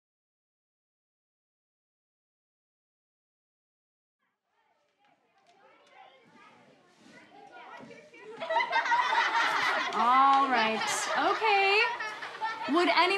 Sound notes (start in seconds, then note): 7.2 children laughing